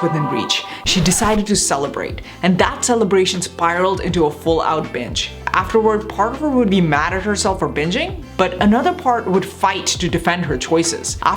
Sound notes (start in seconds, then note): 0.0 record needle scratching; 3.5 lively music